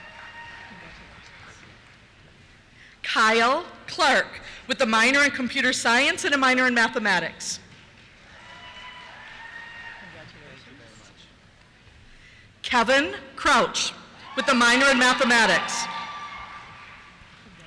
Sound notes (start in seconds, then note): 8.2 cheers; 10.7 voiceover; 14.2 cheers